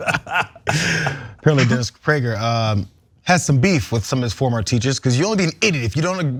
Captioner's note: laugh